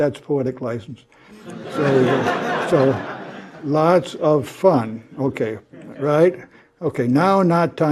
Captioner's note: laugh